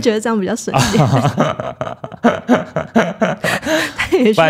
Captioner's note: laughs